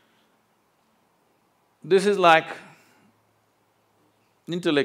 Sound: none

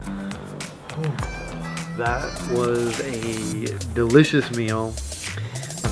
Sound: sigh

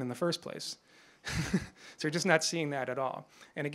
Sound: chuckles

